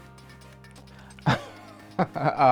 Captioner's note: laughing